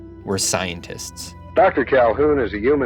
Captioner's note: soundbite of archived recording